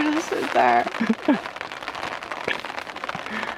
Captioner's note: laughs